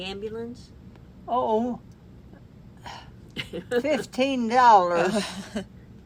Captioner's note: laughs